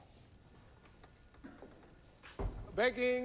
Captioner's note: door opens